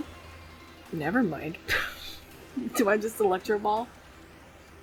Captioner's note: laughs